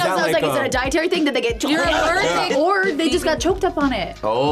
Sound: gags

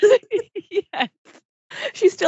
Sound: laughs

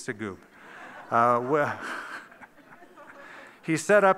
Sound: laughter

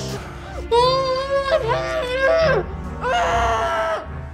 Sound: muffled screams

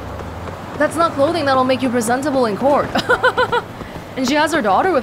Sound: chuckles

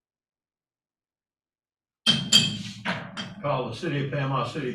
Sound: gavel bang, bang

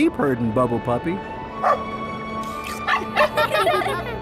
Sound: barking; laughing

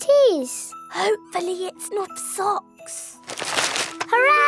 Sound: whispering

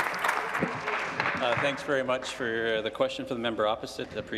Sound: applause

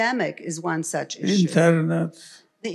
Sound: foreign language

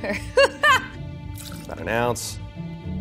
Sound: woman laughs loudly; liquid splashing; quirky orchestral music

